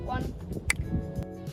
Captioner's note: snap